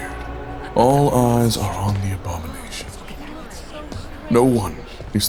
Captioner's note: people whispering